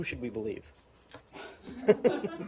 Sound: laughter

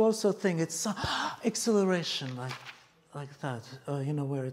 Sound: inhales

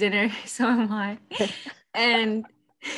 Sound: laughs

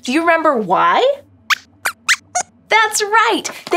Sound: squeaks squeaks

